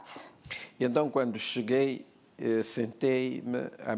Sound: speaking portuguese

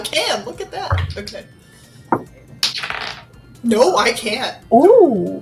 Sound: dice clatters

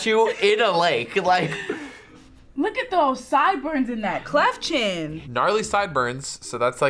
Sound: laughs

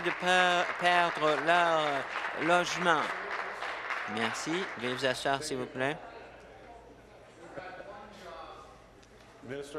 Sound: applause

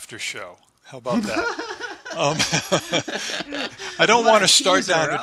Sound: laughter

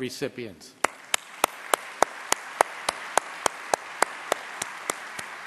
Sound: applause

